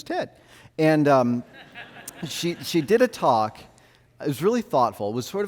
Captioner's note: audience laughs